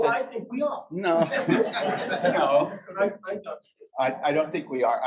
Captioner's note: audience laughs